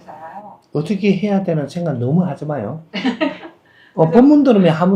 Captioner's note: questioner laughs